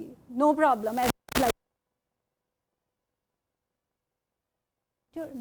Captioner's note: microphone cuts out